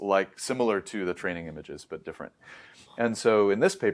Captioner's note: inhales